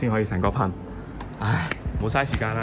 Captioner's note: sighs